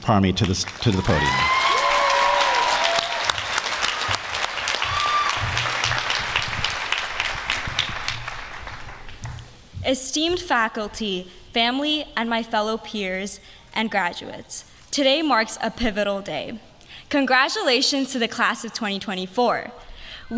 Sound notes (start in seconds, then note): 3.2 applause